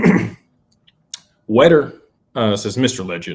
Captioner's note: clears throat